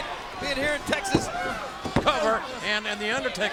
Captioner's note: pounding mat